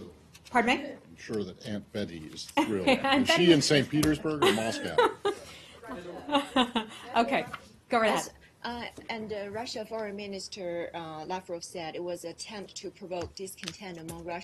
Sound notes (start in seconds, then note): 4.4 laughter